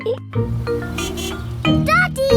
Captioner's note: horn honks